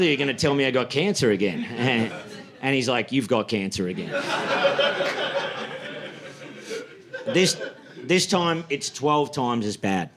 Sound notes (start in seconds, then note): 3.8 audience laughing